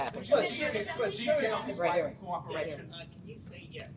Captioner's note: overlapping chatter